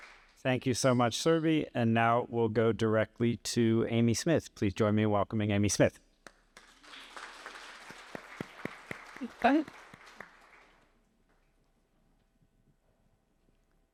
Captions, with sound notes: Thank you so much, Surbhi. And now we'll go directly to Amy Smith. Please join me in welcoming Amy Smith. [APPLAUSE]